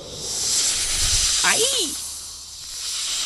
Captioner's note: snake hissing